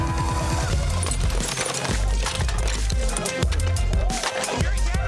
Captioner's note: energetic tense music; utensils clinking